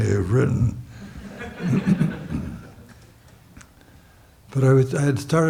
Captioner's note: audience laughs